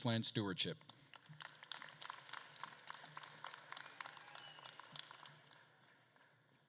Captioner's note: attendees applauding and cheering